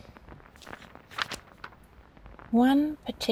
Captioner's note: page turn